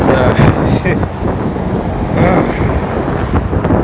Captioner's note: laughs, then grunts